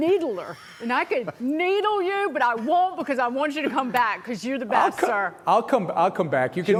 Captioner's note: laughter